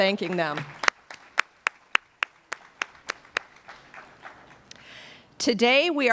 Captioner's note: applause